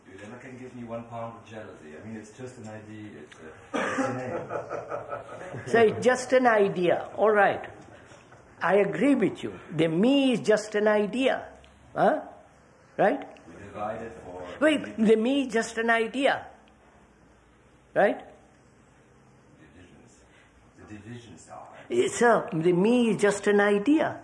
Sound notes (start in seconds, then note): 6.4 laughter